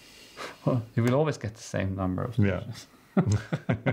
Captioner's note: laugh